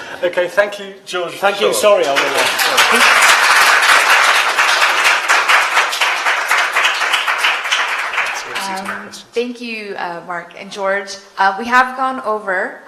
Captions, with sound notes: -Okay. Thank you, George. -Sure. -Thank you. [applause] -Thank you, Mark and George. We have gone over.